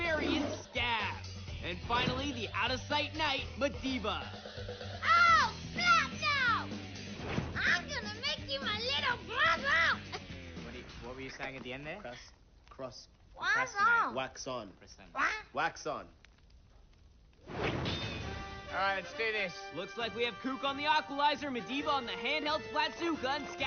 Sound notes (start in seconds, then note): 10.1 chuckles